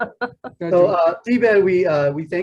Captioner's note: laughing